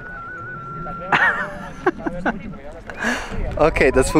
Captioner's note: laughs